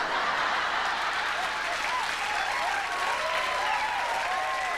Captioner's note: cheers & applause